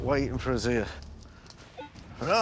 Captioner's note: beeping